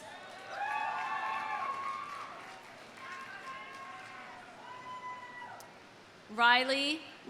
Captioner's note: audience applauding; audience cheering